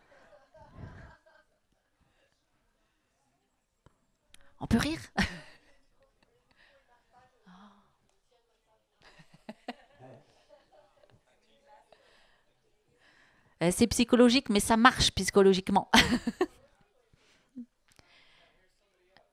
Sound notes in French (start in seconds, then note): 13.2 elle rit